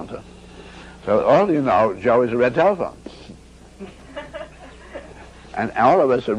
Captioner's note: audience giggles again